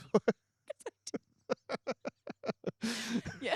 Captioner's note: laughter